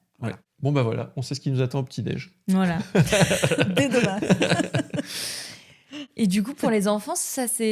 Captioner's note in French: rires